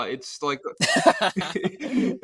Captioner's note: both laughing